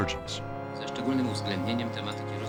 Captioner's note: man speaking Polish